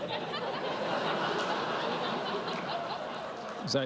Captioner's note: laughter